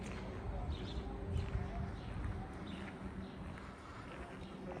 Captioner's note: vehicles whirring; birds chirping